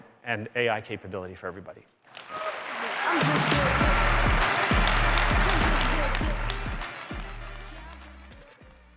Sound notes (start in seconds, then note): 2.0 applause; 2.4 upbeat music